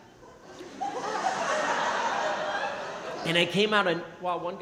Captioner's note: crowd laughing